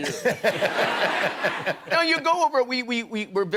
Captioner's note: laughter